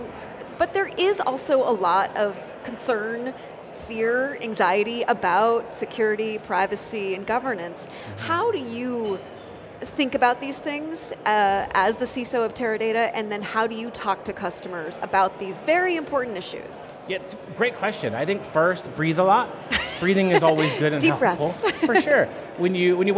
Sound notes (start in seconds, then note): 19.7 laughing